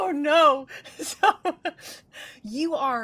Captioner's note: chuckles